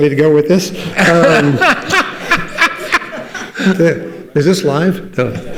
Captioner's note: participants laugh